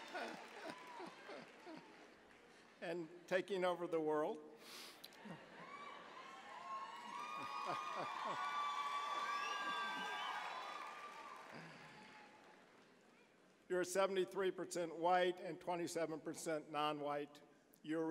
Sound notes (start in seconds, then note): 0.0 chuckling; 5.2 cheering